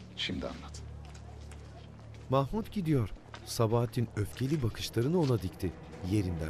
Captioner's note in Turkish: Ayak sesi